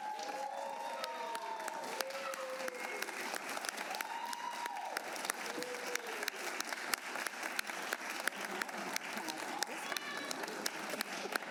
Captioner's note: applause